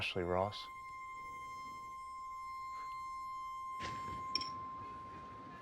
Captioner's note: piercing high-pitched tone